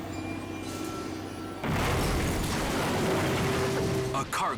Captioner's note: eerie dramatic music; bridge shattering; barge crashing